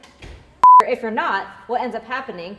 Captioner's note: beep